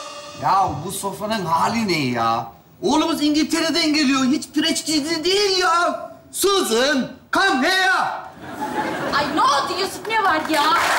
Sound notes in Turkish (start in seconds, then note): 6.3 İsmi İngilizce söyler